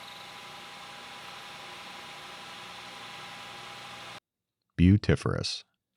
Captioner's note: machine whirring